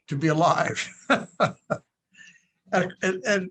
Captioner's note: laughing